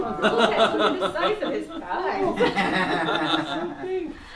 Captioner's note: all chattering